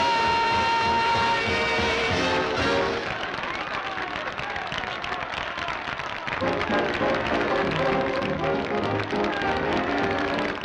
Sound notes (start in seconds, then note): 3.1 applause; 6.4 instrumental music